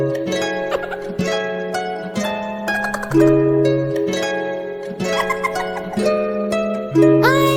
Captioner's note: hermes laughin bro